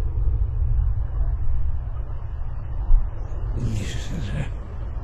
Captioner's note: the voices continue - slowly building in measure and volume